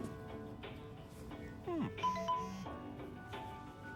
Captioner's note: cell phone rings